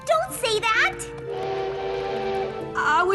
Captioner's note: train whistle